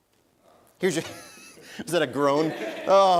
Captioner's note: laughs